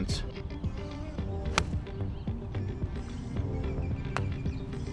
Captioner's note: man hits golf ball